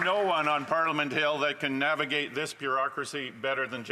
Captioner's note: applause